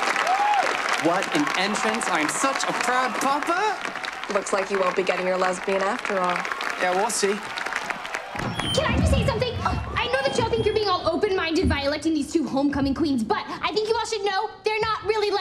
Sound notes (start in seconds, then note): 0.0 cheers and applause; 9.9 microphone feedback